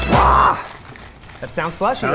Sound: grunts

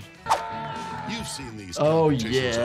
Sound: man screaming

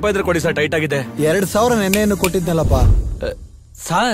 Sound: snaps finger

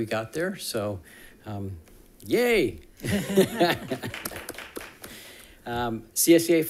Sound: audience applauding

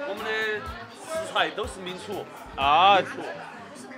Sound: speaks mandarin

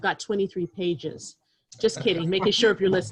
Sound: laughter

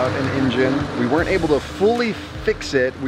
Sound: engine roars

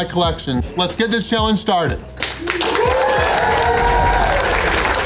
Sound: crowd clapping and cheering

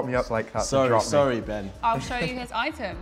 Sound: chuckles

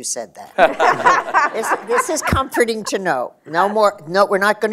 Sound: laughter

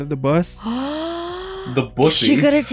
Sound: gasps

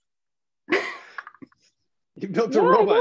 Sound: chuckles

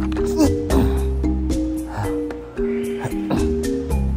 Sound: Alan grunting

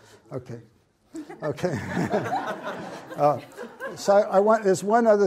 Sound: audience laughs

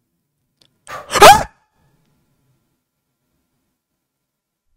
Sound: screams

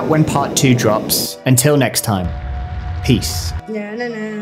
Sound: flame thrower roars

